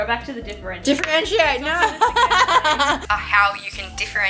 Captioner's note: laughs